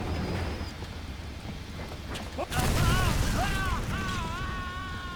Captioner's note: screaming